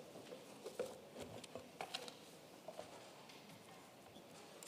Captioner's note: paper rustling